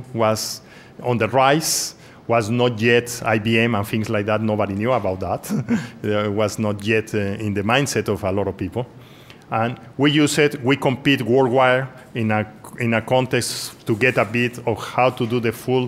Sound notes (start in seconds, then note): 5.4 laughs